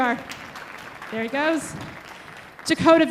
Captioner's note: audience applauding